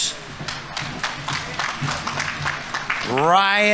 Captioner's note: audience applauding